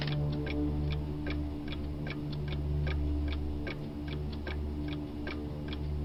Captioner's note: clock ticking continues